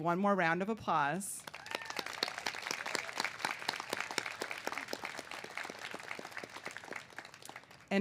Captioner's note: cheers and applause